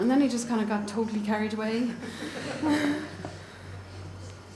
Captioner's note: audience laughs